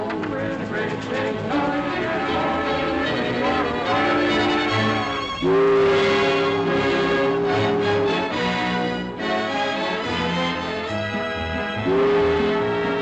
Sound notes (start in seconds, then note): 1.0 train rattling; 5.2 ship horn; 9.1 cheerful music